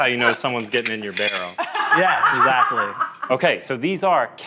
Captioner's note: laughs